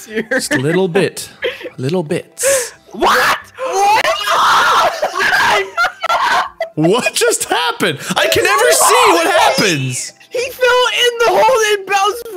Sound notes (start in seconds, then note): 2.9 has a screaming fit; 2.9 laughing; 9.4 still yelling